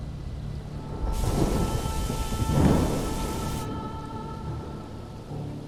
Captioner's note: storm raging; soft music